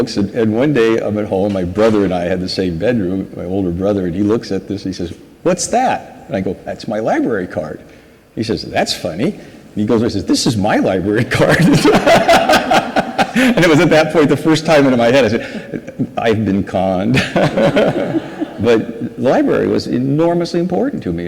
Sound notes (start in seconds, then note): 11.5 laughs; 11.6 audience laughs